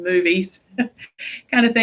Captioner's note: chuckles